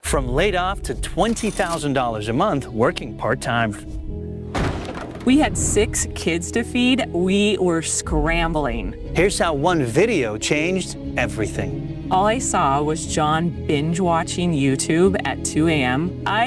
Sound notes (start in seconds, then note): 3.7 dramatic music; 4.5 wood thuds